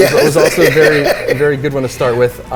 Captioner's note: laughs